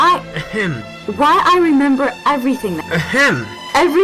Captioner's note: ahem; ahem; ahem!